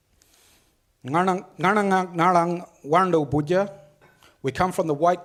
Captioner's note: speaks foreign language